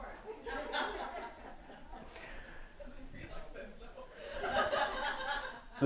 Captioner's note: audience laughing